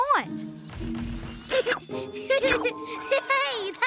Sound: giggling

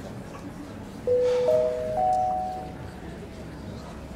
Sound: intercom bell

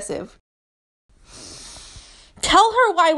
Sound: deep inhale

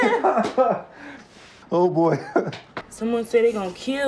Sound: laughing

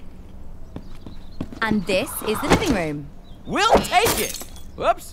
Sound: footsteps; lamp shattering

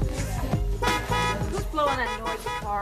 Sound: horn honking

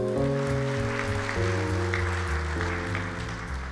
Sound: claps

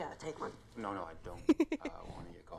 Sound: giggling

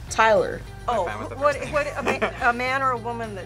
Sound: laughs

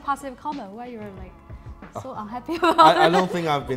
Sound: laughs

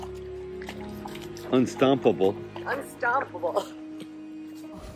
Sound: laugh

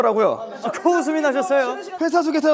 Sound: laugh

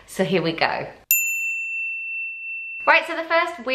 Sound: bell dinging

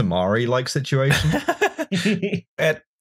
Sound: laughter

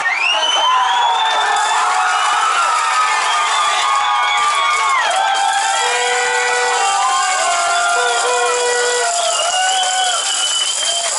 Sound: loud cheers

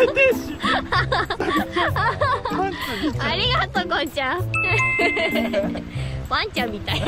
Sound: laughs

